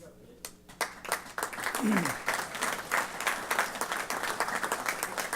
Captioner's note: applause